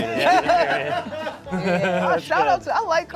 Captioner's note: laughs